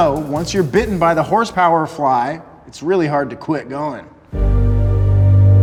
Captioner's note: none